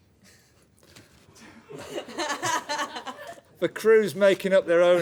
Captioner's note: laughter